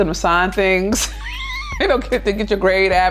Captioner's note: laughs